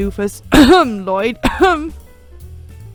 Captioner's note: cough